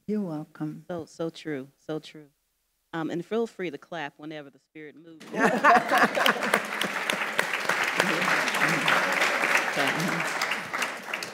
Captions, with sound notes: You're welcome. So, so true, so true. And feel free to clap whenever the spirit moves you. (panelists laughing) (audience applauding)